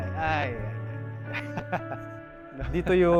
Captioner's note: laughs